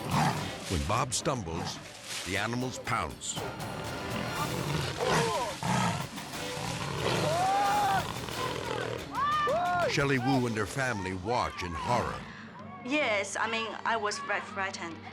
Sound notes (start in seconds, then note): 0.0 suspenseful music; 0.0 lion growling; 3.9 suspenseful music; 4.0 lion snarling; 5.4 screaming